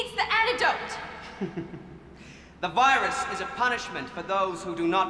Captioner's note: chuckles